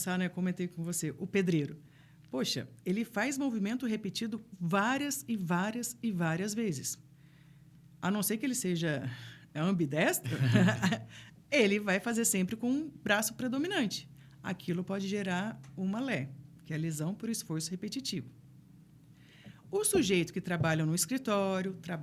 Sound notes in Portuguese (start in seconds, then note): 10.2 risadas